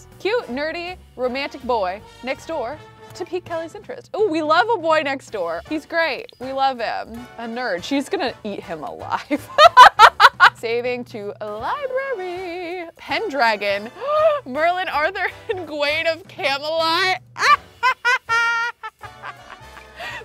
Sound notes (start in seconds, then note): 9.4 laughs; 13.9 gasps; 17.4 laughs